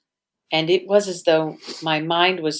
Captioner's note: sniffs